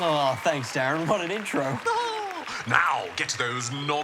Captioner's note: laughs